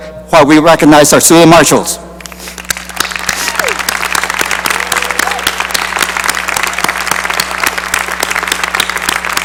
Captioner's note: cheering and applause